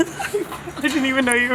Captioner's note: laughs